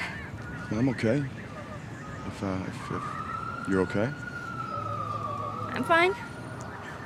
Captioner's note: siren wails